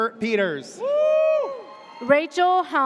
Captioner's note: audience cheers